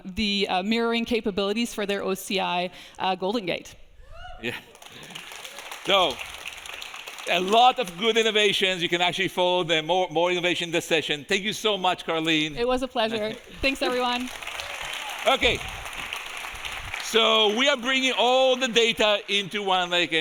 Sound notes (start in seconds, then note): 4.7 audience applauding; 14.8 audience applauding